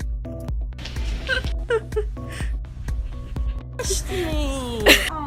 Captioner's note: laughing